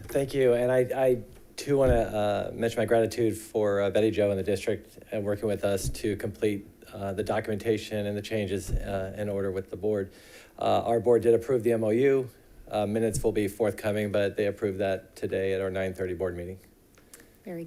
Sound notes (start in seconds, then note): none